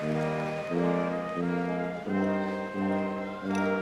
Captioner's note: cheers and applause